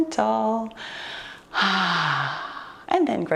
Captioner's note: exhales heavily